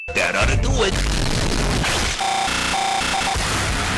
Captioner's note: distorted glitchy noises